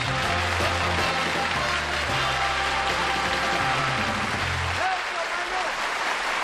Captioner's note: applause